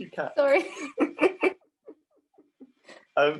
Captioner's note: chuckle